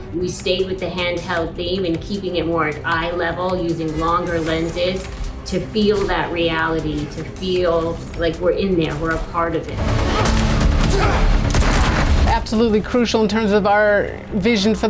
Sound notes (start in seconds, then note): 9.7 guns shooting; 10.7 grunting